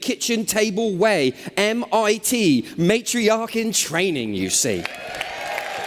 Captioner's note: cheers